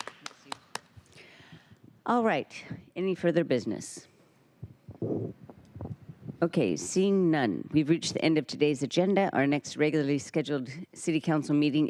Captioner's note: applause